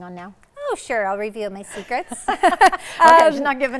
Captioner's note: laughs